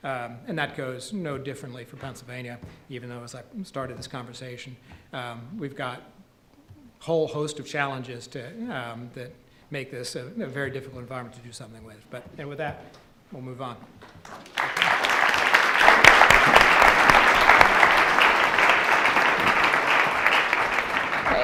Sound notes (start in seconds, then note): 14.2 audience applause